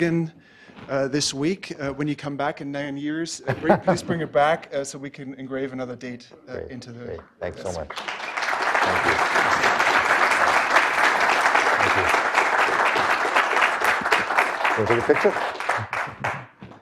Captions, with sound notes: to Oregon this week, when you come back in nine years, please bring it back so we can engrave another date into the - Great, thanks so much. (audience applauding)